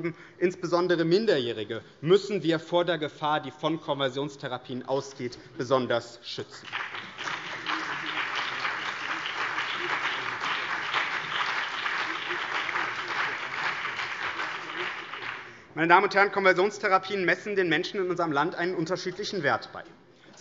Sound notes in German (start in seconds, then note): 6.6 Beifall CDU, BÜNDNIS 90/DIE GRÜNEN, SPD und DIE LINKE